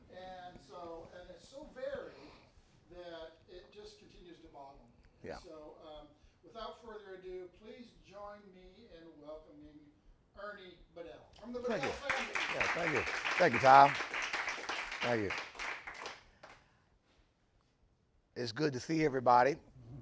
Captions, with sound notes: And so, and it's so varied that it just continues to boggle me. So without further ado, please join me in welcoming Ernie Bedell, from the Bedell family. (audience applauding) - Thank you, yeah thank you, thank you Tom, thank you. It's good to see everybody.